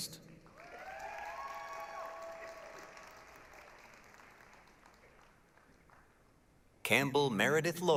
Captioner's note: applause, cheering